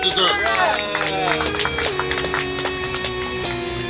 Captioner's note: clapping